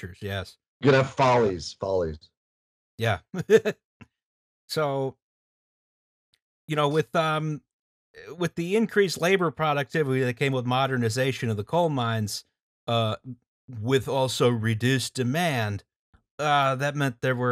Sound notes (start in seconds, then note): 3.3 laughter